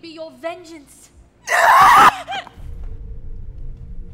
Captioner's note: screams